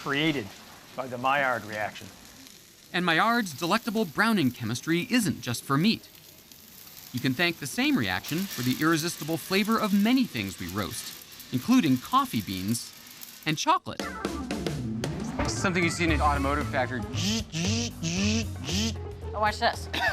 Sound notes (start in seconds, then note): 17.4 imitating machine whirring